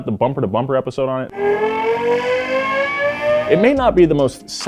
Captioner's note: engine revving